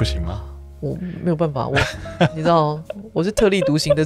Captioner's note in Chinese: 哈哈